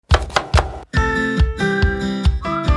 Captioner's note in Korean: 칼도마소리